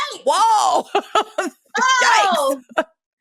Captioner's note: laughs